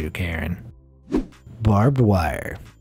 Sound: air whooshing

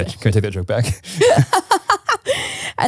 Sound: both laughing

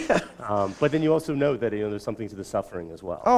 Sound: chuckle

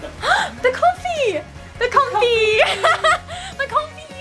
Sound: laughs

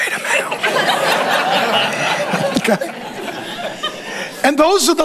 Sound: congregation laughing

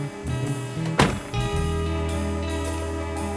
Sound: door slamming; downbeat music

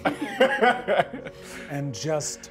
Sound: laughs

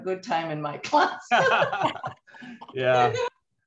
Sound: laughter

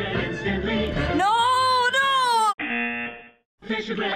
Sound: buzzer

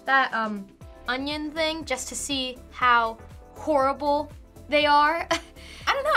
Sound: laughs

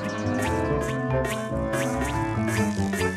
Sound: beans bounce

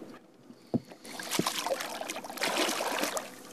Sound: splash

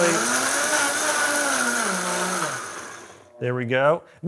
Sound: blender revving

